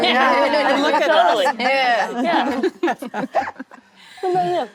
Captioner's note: actresses laughing